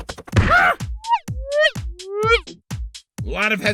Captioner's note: balloon screams; whirl... whirl... whirl